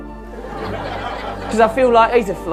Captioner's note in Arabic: ضحك